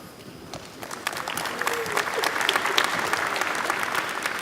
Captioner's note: applause